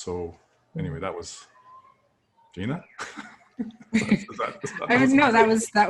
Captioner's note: laughter